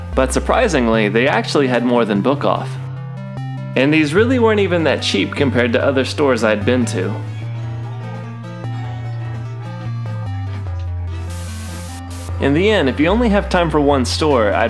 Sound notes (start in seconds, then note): 8.0 upbeat electronic music; 11.3 static